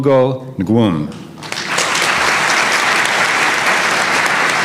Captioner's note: applause